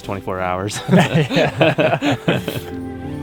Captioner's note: all laugh